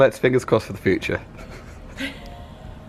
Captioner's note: woman laughs